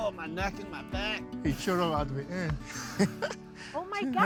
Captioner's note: chuckles